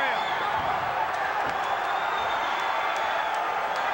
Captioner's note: crowd roaring